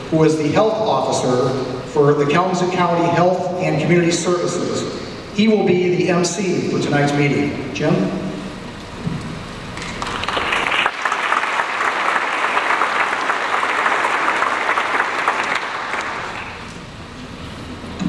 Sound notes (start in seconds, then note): 9.8 audience applauds